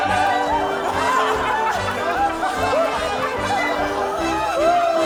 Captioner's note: group laughing; joyous orchestral music